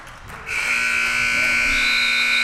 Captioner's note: buzzer sounding; whistle chirping